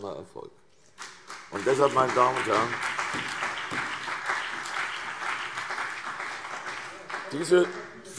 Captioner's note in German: Beifall CDU und BÜNDNIS 90/DIE GRÜNEN